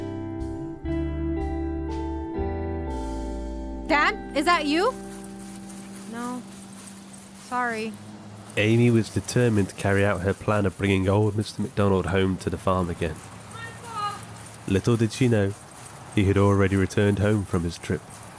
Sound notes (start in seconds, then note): 4.1 grass padding and crunching